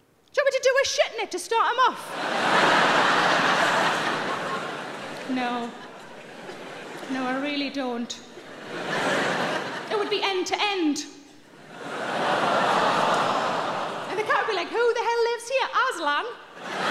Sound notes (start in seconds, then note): 2.0 audience laughs; 11.4 audience laughs